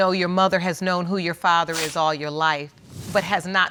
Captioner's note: sniffles